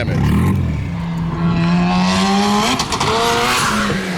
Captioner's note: engine revs